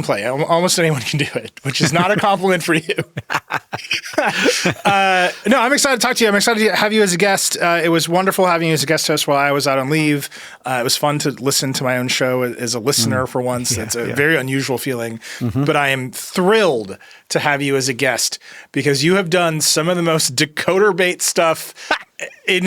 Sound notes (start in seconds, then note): 2.7 both laugh